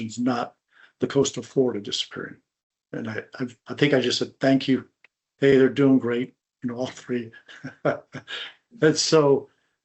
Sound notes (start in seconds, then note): 6.6 chuckles